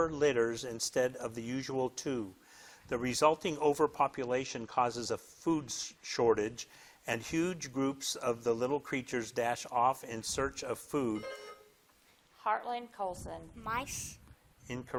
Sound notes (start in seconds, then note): 11.2 buzzer dings